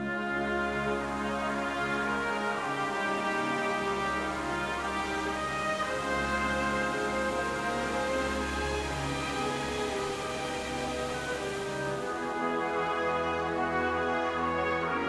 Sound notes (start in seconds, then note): 10.0 water splashing